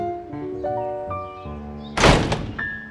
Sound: door slams

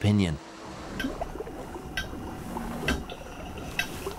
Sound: seal clicking on screen

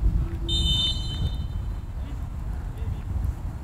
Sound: whistle blows

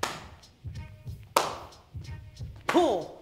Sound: claps

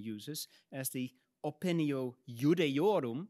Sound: speaks in Latin

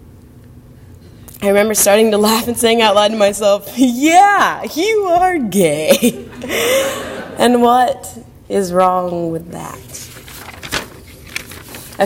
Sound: laugh

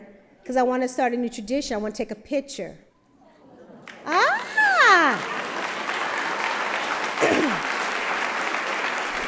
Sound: applause

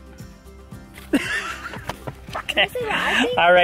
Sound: laughs

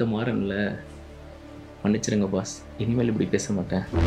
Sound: sarcastically

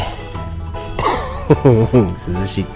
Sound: laughs

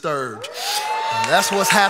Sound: congregation cheering; congregation applauding

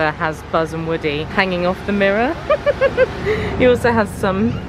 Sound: giggling

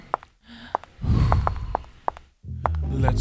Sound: breathes deeply

